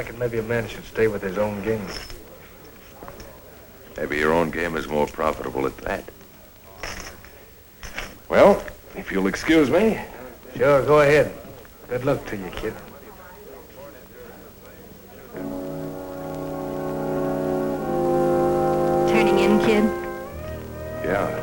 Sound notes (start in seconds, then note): 13.5 chattering